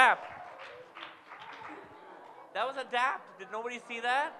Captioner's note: audience claps